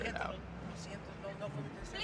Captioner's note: speaking spanish